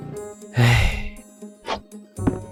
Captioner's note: sigh